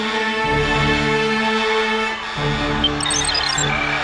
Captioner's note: alarm sounding; crowd wailing